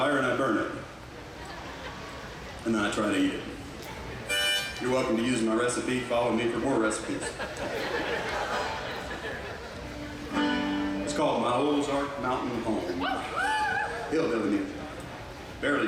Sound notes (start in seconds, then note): 6.9 audience laughs